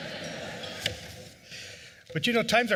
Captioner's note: laughter